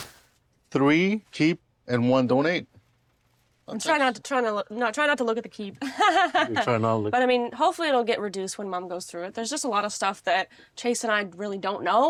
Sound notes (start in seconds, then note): 5.6 laughing